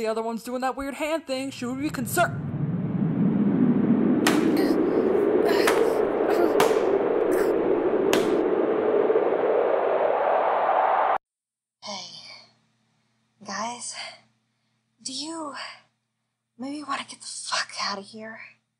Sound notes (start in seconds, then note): 1.8 wind howls. Bodies slam into buildings. Various pained noises